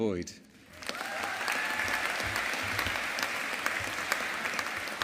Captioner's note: audience applauding